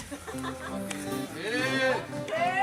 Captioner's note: woman laughing